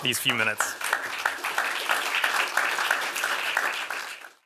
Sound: applause

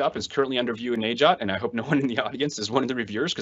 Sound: laughs

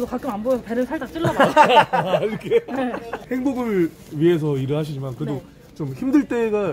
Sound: laughing

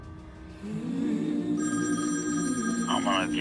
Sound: phone rings

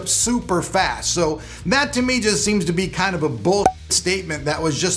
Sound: pops

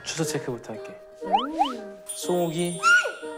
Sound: exclaiming

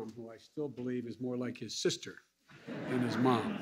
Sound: laughter

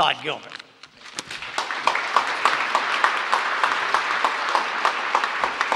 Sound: applause

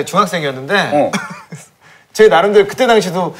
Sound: haha

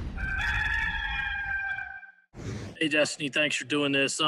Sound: rooster crowing

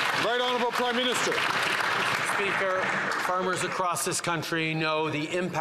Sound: some Applause

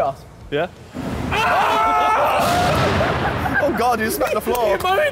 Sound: all cheering

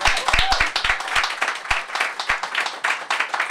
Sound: applause

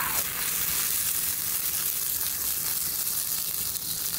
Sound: sizzling

